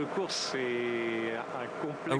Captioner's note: speaking french